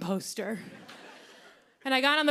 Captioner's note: laughter